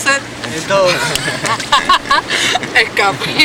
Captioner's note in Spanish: risas